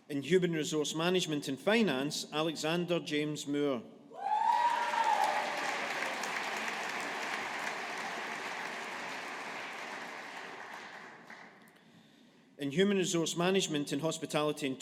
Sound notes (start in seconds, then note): 4.4 audience applauding